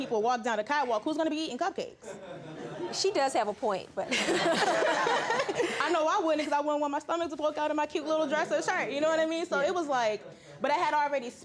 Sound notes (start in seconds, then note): 2.2 audience chuckling; 4.2 chuckling